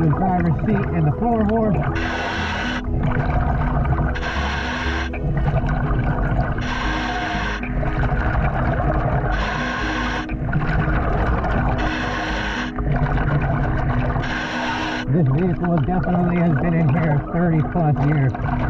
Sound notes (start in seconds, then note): 3.0 scuba breathing; 3.0 water bubbling